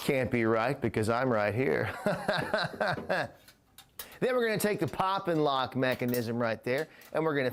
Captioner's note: chuckles to self